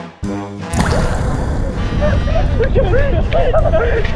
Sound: then gone with water gurgles

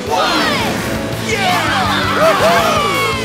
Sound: cheering

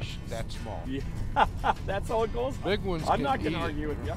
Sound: laughs

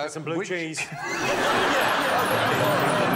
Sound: laughter

